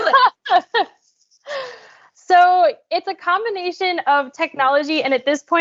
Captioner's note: laughs